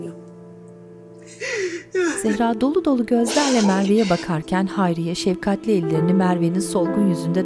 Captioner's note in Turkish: Ağlama sesi